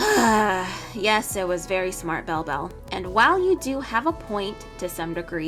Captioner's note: sighs